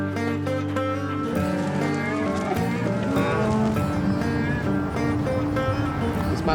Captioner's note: cows moo